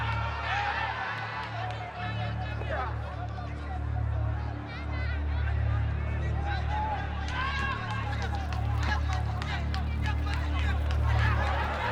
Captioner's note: shouting